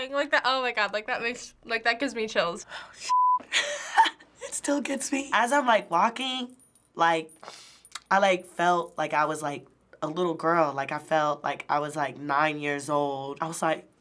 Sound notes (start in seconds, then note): 2.8 choked up; 4.1 laughs